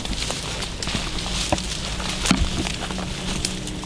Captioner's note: dramatic music; leaves rustle